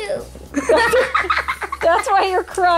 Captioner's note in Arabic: أطفال يضحكون